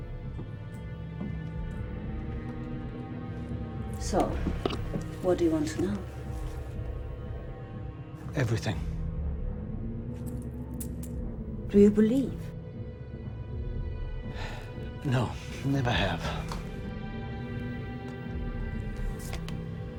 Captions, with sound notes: So, what do you want to know? - Everything. - Do you believe? - (sighs) No, never have.